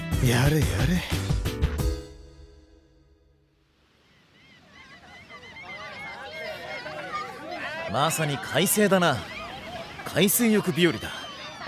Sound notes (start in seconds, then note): 3.9 the sound of seagulls on the wind; 6.6 people chattering